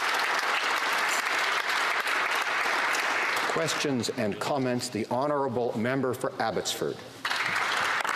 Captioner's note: applause